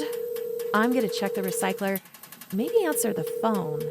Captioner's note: sound of pipes rattling and phone ringing